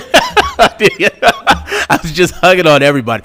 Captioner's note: laughing